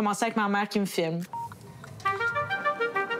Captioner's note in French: bip!